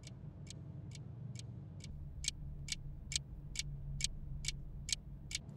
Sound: ticking continues

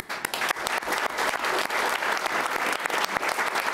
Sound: applauding

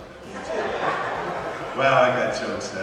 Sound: audience laughs

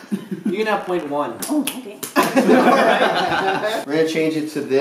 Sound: laughter

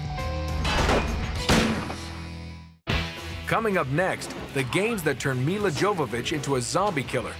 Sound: gunshots

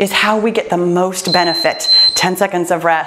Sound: timer beeps

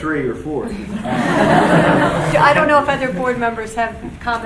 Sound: laughing

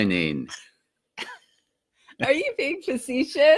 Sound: laughing

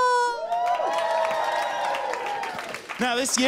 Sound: applause

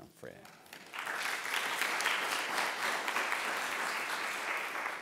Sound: applause

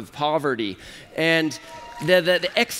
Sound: applause

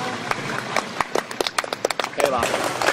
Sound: claps

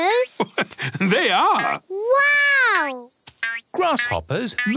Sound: laugh

